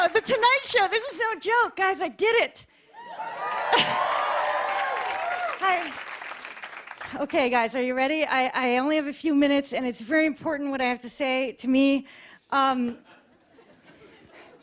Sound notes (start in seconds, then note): 2.9 cheers and applause